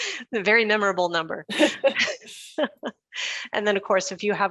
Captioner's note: chuckles